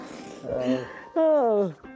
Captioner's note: sighs